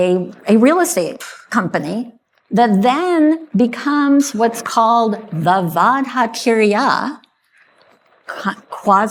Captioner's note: speaking hebrew